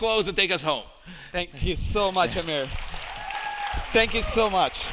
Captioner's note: audience applauding